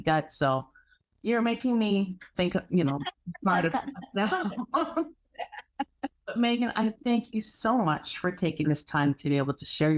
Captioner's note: both laugh